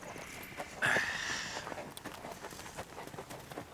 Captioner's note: grunts